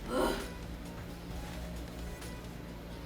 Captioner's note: sighs